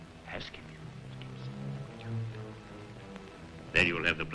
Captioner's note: whispering